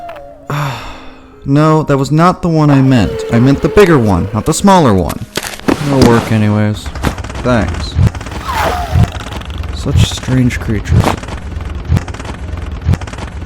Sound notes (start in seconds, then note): 0.0 annoyed sigh; 7.4 thankful Alien sounds